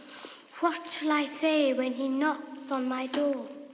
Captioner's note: none